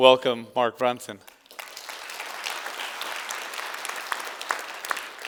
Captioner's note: applause